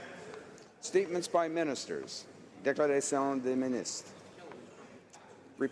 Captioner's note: speaking French